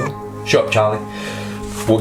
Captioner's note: baby crying